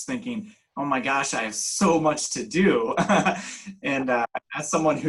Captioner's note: laughs